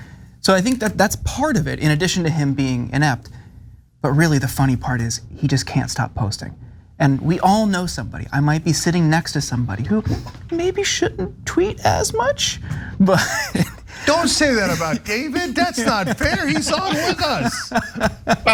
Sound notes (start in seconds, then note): 13.0 laugh